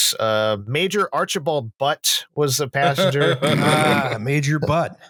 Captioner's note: laughter